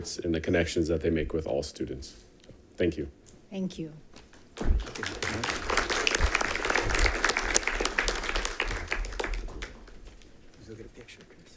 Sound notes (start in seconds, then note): 4.5 attendants applauding